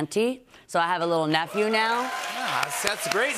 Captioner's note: cheers and applause